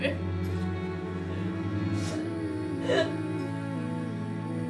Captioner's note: Keely sobs